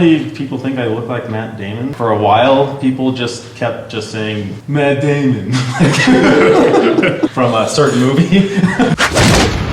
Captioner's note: chuckles